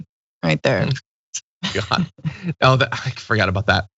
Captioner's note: laugh